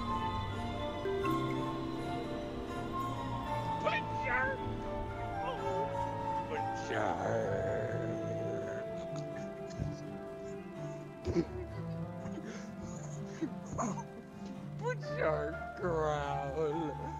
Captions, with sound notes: ooh whats that bjart growl bjjjarrrrrrrrrrrrtt *giggling* bjart bjart growwwl